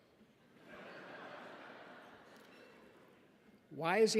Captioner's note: audience laughs